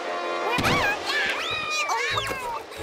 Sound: both yelling

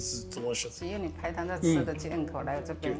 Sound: speaking Taiwanese

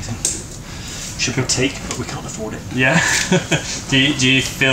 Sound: laughs

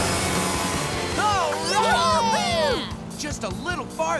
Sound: cheering

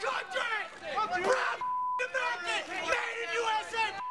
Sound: beep

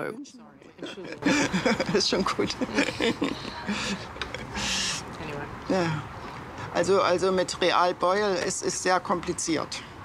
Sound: laughing

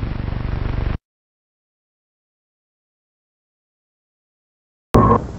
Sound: silence

